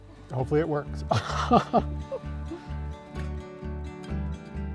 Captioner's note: laughs; mellow guitar music